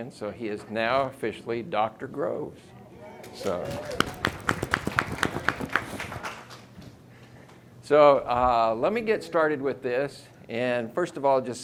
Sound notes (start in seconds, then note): 3.3 audience clapping and cheering